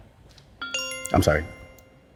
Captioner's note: bell chimes